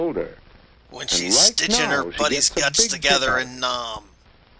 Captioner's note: grimly